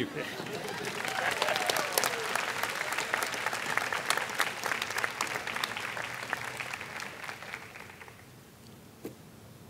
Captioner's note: applause